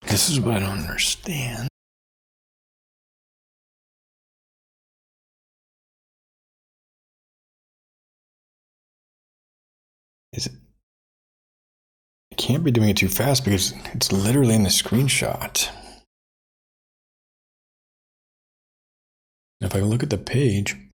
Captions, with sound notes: This is what I don't understand. (Blank Audio) (Blank Audio) (Blank Audio) If I look at the page,